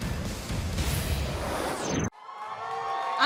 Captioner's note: cheers and applause